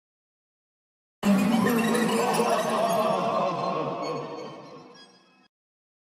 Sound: creepy laugh

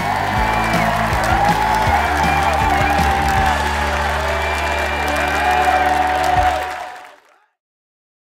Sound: applause/cheer

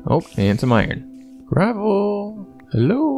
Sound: sing-songy

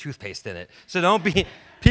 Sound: audience laughs

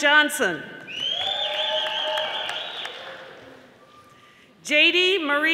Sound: audience applauding

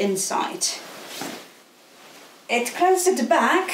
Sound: gown rustling

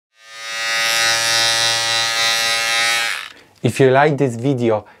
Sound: razor buzzing

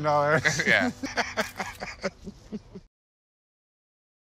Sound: laughs

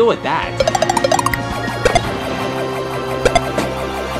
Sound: device beeping

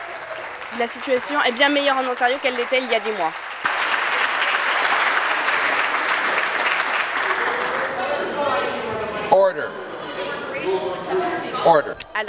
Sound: applause

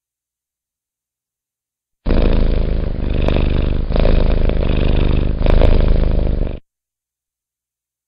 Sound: Purring cat www.sounddogs.com

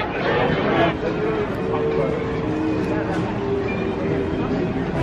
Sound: people chattering

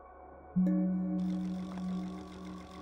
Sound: tone sounds; mechanical clicking

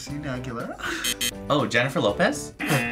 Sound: buzzer

